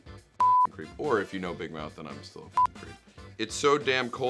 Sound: beep

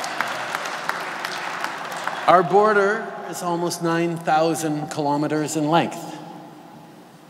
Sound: laughter & Applause

